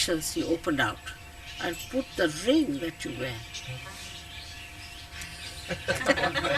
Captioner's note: laughter